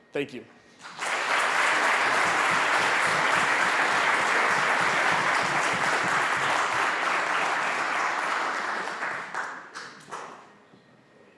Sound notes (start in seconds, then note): 0.8 applause